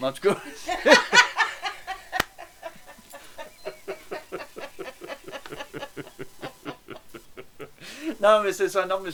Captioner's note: laugh